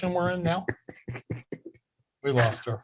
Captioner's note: laughing